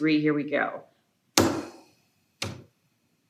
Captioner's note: inhales